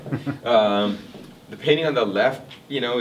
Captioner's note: man laughs